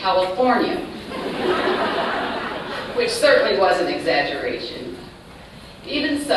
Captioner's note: laughter